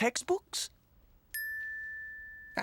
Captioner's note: bell dings